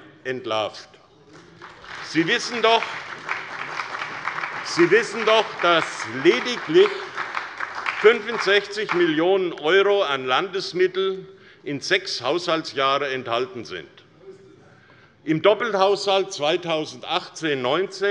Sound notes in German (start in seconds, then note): 1.7 Beifall bei der SPD